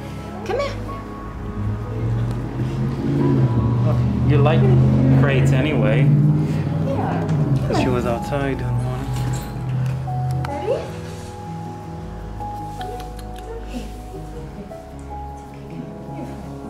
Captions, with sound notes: Come here. Look, you like, crates anyway. Here, come on. Cause she was outside in one. Ready? Come here. [Tongue clicks] Come on, it's okay. It's okay, come on, here we go.